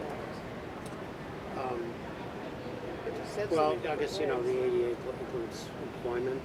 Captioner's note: multiple voices